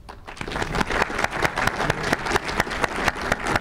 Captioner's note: group applause